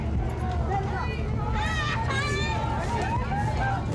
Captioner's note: child crying